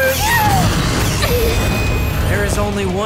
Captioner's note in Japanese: 悲鳴